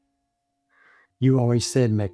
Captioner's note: none